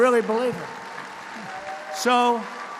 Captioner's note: applause